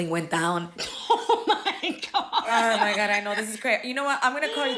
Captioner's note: laughing